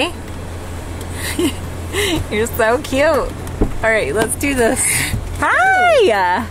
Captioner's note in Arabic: ضحكات خافتة